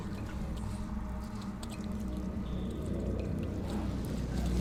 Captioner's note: water dripping